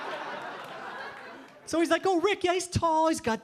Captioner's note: audience laughing